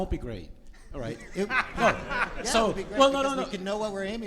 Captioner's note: audience laughs